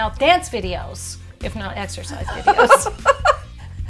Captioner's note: laughter